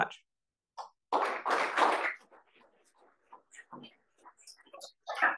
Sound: applause

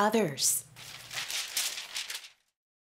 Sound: papers rustling

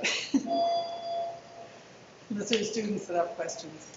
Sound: student laughing

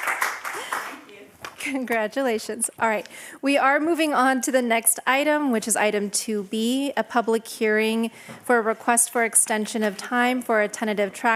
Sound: applause

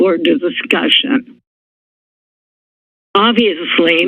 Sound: silence

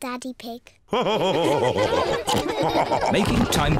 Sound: all laugh

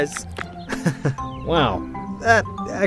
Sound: chuckle

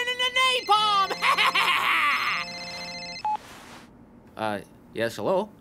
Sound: cell phone ringing

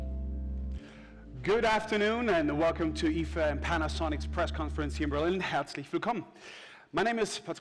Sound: german

